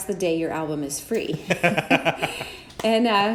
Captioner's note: laughs